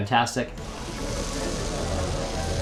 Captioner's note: sauce simmering; upbeat music